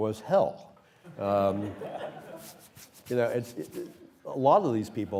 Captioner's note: laughter